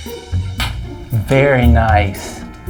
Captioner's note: clicks tongue